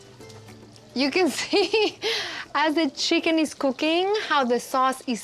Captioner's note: laughing